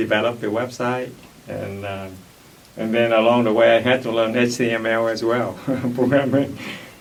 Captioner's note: laughs